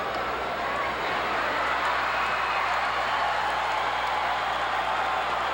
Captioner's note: audience cheering